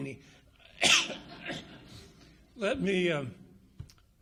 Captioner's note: coughs; audience laughs